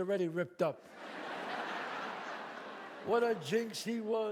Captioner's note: audience laughs